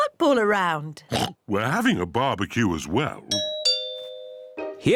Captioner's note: oinks; doorbell rings